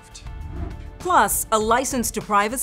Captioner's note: graphics whooshing